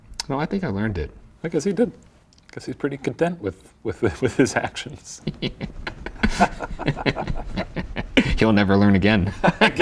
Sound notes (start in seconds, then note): 3.9 laughing